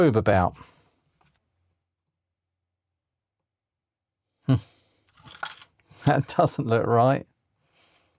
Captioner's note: silence